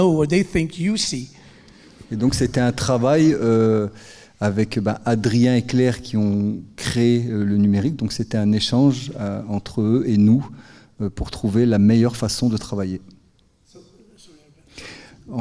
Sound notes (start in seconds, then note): 2.1 speaking in French; 13.8 speaking in French